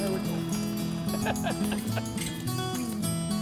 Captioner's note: laughing